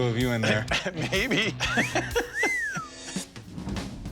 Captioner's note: laughs; whistles